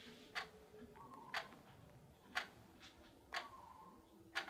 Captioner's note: clock ticking